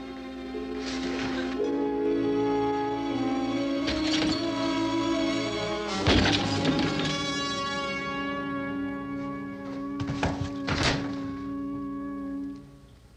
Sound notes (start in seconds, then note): 0.2 foreboding instrumental music; 4.1 glass shattering